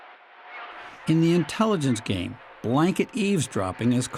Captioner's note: voice-over